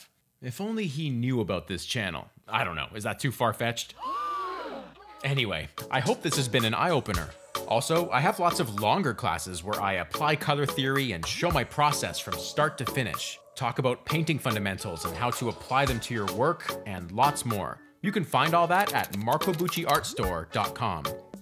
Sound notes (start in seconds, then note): 4.0 crowd gasp